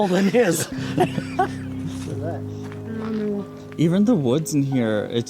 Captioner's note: laughs